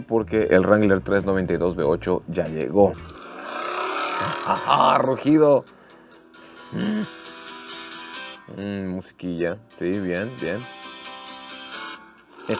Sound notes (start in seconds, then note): 2.9 engine roaring